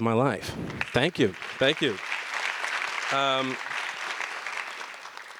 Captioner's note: audience applause